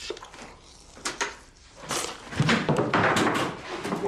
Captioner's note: door opens